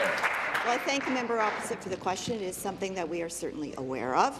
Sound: applause

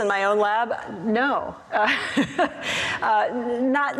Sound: laughs

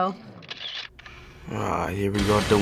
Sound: camera shutter clicks

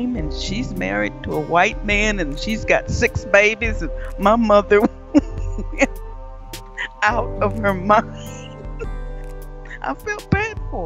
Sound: chuckles

